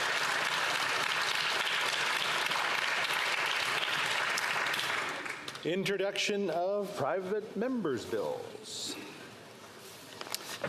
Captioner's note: some Applause